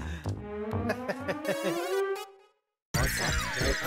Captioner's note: laughing